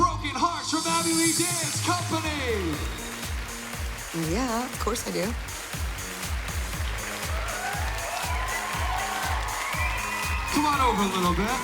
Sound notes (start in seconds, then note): 5.0 applause; 6.9 cheering